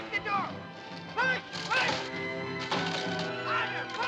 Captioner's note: wood splintering